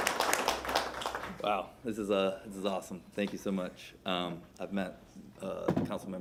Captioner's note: applause